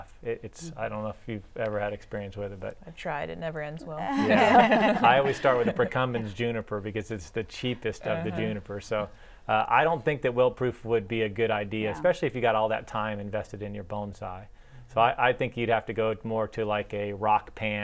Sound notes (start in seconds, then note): 4.1 laughter